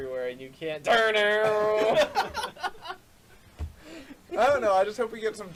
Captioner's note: laughs